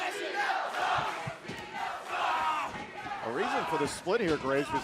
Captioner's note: fans chanting